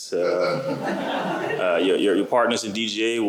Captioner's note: laughter